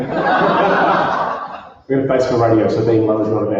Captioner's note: laughter